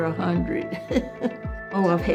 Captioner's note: laughing